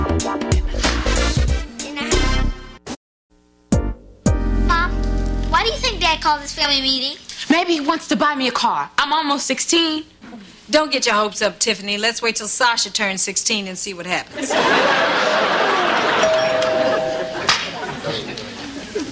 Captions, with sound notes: NBC PRODUCTIONS, AND 1995 NCI CAPTION CLUB/GRANTSMANSHIP WHY DID DAD CALL THIS FAMILY MEETING? MAYBE HE WANTS TO BUY ME A CAR. I'M ALMOST 16. DON'T GET YOUR HOPES UP, TIFFANY. LET'S WAIT TILL SASCHA TURNS 16 AND SEE WHAT HAPPENS. [DOORBELL RINGS]